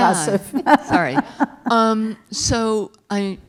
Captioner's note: laugh